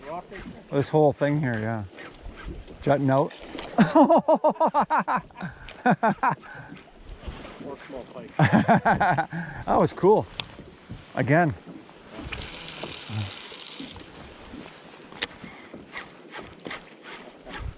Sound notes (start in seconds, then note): 3.7 laughter